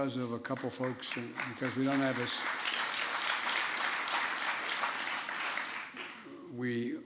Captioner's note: applause